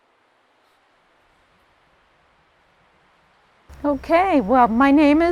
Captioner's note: leaves rustling in the wind